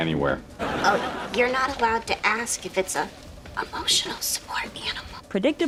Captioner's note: whispers